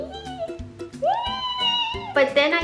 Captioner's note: squeal